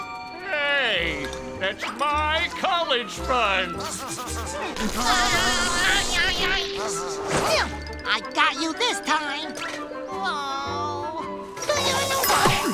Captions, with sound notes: Hey, that's my college funds. [shrieking] [grunting] I got you this time! Oh.